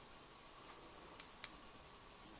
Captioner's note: clicking